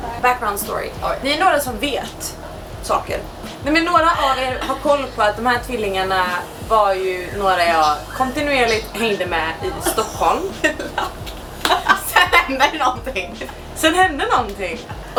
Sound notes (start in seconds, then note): 10.6 laughs